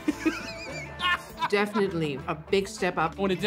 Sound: laughs

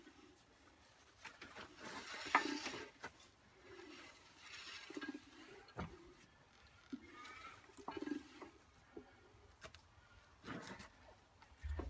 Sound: whoosh gurgle woosh gurgle woosh

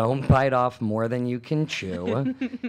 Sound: laughs

